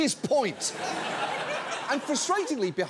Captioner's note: audience laughs